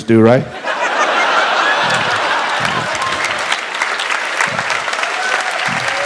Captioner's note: audience laughs and applauds